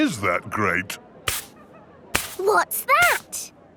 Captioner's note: brushing